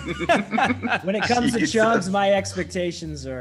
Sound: laugh

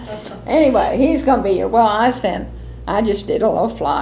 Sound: laughter

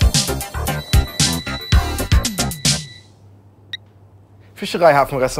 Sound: phone rings

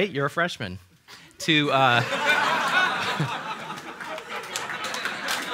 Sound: laughter and applause

